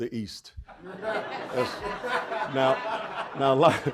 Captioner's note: audience laughing